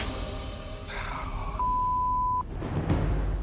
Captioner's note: suspenseful music; sighs